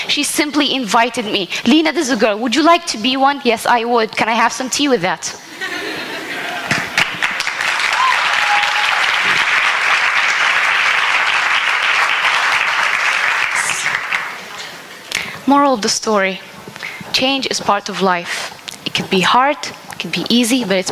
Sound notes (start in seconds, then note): 5.5 laughter; 6.7 applause